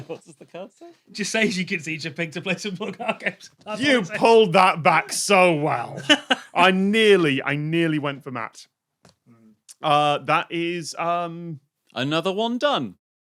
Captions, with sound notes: What does the card say? Just says "You can teach a pig to play simple card games." You pulled that back so well! (laughs) I nearly went for Matt. That is... Another one done.